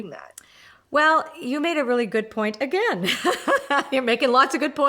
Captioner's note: laughs